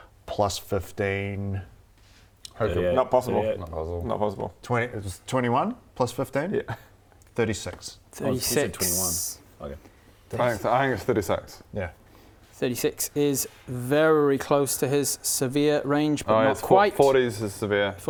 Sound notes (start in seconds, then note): none